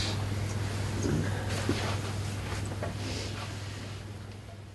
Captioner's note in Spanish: none